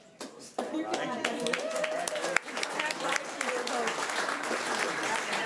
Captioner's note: audience applause